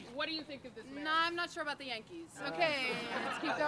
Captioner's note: laugh